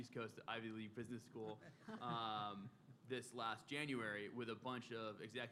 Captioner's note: laughter